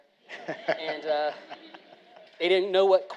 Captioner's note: all laughing